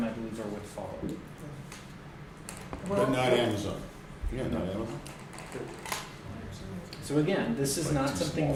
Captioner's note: background Conversation